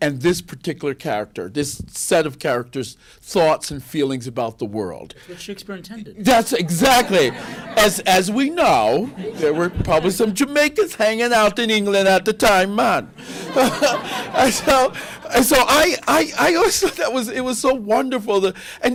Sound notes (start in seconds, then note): 12.1 adopting Jamaican accent; 13.2 laughter